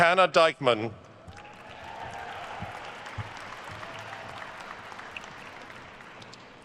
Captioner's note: attendees cheering and applauding